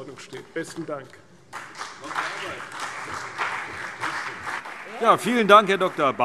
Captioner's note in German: Beifall CDU und BÜNDNIS 90/DIE GRÜNEN